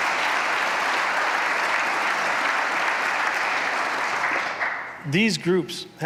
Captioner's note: applause